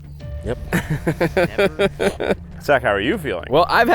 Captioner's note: laughs